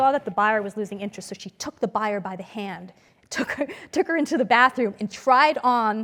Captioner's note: laugh